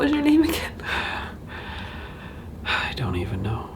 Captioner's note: sighing